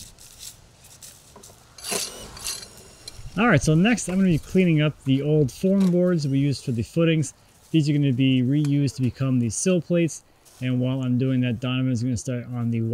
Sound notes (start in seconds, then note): 2.1 tool scraping